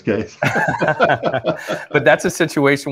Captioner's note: both laughing